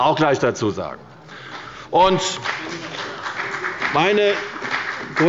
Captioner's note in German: Beifall bei Abgeordneten der CDU und bei dem BÜNDNIS 90/DIE GRÜNEN